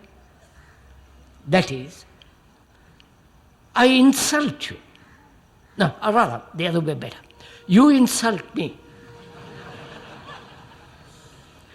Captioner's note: laughter